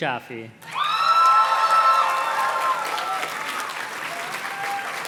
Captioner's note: audience cheers and claps